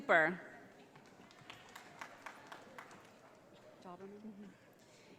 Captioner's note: audience applauding